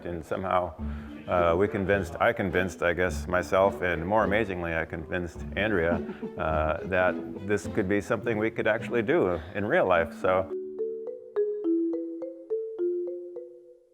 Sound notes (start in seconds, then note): 5.7 chuckles; 12.9 playful music